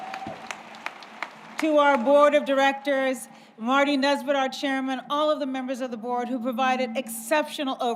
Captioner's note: applause